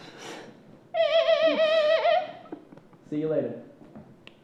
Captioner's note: worker imitates dolphin screeching